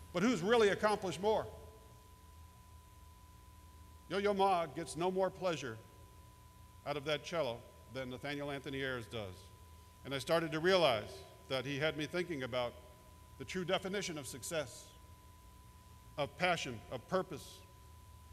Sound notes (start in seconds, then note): none